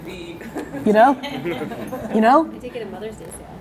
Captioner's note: laughing